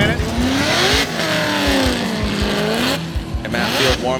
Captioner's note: engine roars